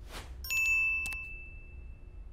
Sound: phone notifications

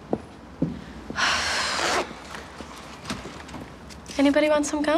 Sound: Abby sighs

